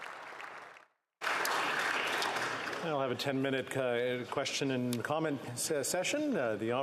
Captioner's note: applause